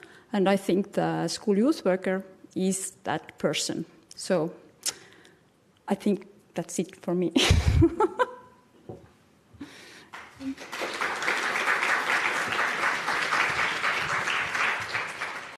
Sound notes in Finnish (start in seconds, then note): 7.4 chuckles; 10.0 applause